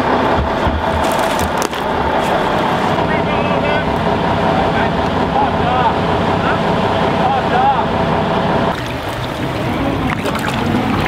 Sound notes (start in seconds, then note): 0.2 tow truck rumbling; 3.5 men shouting